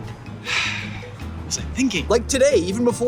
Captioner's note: sigh